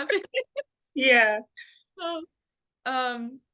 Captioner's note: laughter